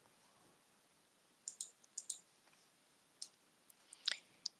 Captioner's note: mouse clicking